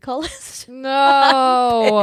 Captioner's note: laughs